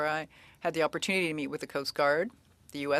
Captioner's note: speaking French